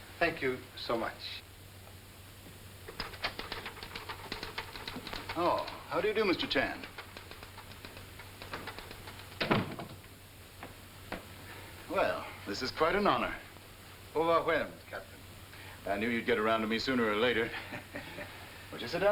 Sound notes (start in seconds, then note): 14.4 speaking in foreign language; 17.3 chuckling